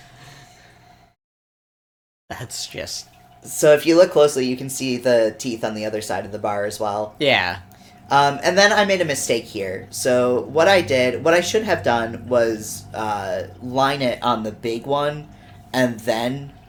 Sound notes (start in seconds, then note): none